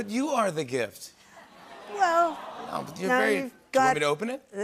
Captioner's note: audience aws